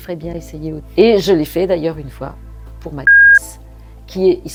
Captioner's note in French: bip